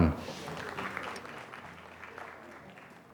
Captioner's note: applause